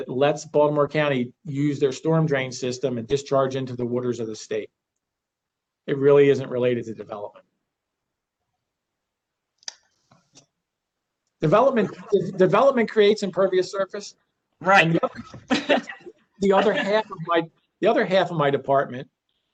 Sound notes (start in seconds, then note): 15.0 laughter